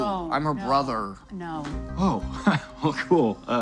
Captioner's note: laughs